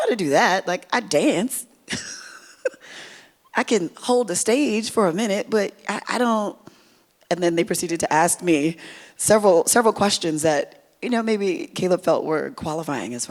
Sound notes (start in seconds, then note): 1.9 laughs